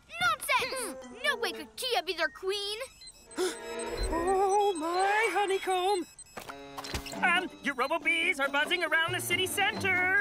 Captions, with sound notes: Nonsense! No way could Kiya be their queen! (Gasps) Oh, my honeycomb! Um, your robo-bees are buzzing around the city centre!